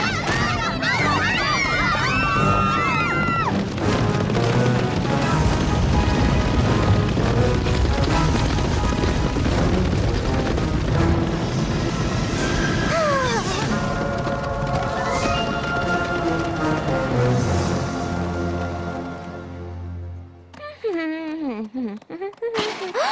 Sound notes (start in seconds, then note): 12.8 moans; 20.7 humming